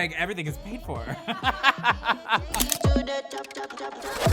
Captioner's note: laughing